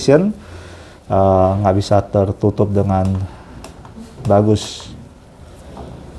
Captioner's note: print head noise